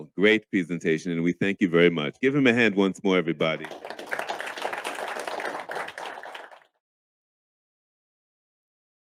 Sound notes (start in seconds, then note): 3.5 audience claps